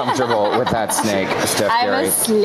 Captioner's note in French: laughter